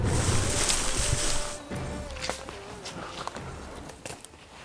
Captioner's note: footsteps